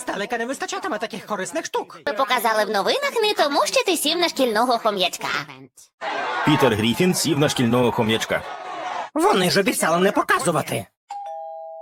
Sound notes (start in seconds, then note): 6.0 clamoring; 11.1 doorbell rings